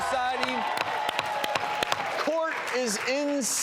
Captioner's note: gavel slams